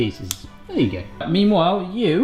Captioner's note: snips